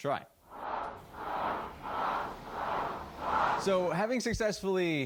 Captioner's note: swooshing